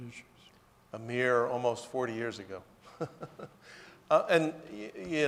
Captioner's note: laughs